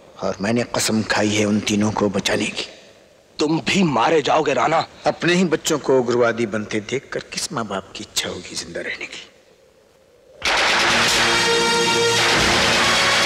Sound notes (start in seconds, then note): 10.4 gunfire